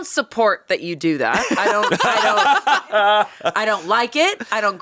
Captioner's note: laughing